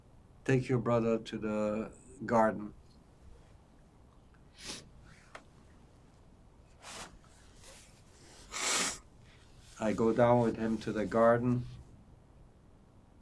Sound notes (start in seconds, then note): 4.3 wiping nose